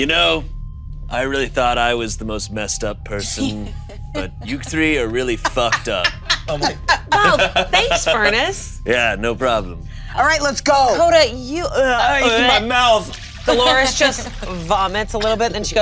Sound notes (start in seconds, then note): 6.1 laughing; 12.2 Dolores gags; 12.9 vomiting sounds